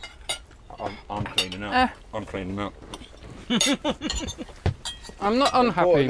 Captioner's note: despondently